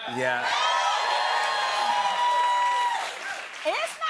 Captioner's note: cheers and applause